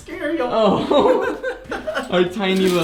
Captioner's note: both laughs